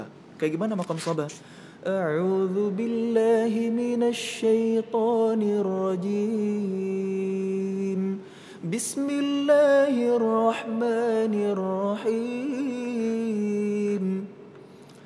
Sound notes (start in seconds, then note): 1.6 recites quran